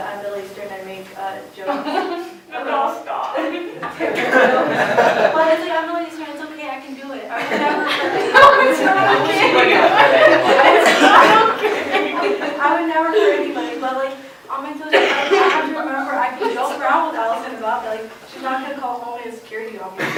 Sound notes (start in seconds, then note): 1.7 laughing; 7.3 laughing; 10.9 laughter